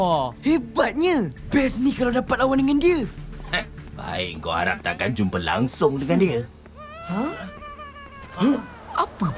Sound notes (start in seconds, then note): 7.0 Uncle Gobi crying